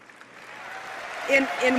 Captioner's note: applause